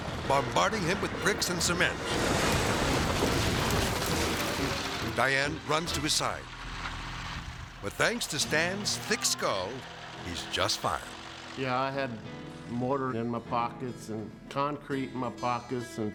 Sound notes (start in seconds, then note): 2.2 silo crashing